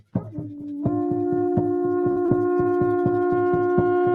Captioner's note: horns blaring